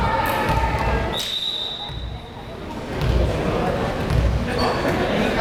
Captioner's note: whistle blares